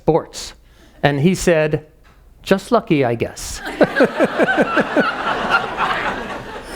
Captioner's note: laughing